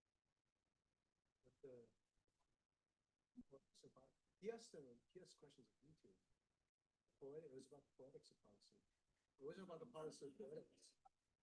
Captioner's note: indistinct conversation